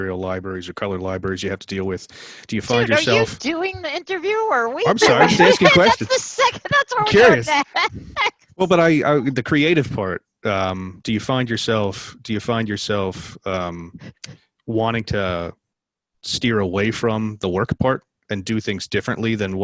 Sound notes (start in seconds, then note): 4.8 laughter